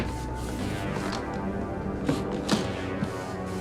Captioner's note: box thudding